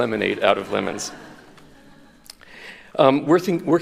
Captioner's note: chuckles